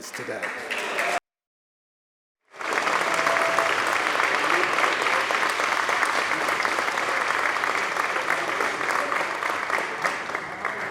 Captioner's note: applause